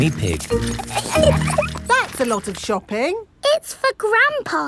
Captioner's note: laughing